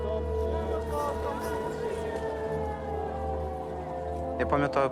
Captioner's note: siren blaring